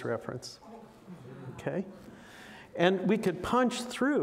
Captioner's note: audience coos